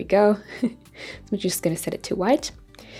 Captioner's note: chuckles